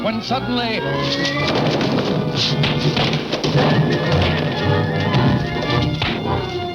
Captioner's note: dramatic music; fists thudding